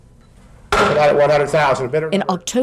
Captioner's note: gavel bangs